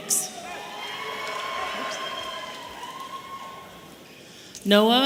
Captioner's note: audience cheering